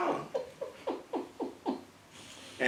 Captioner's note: laugh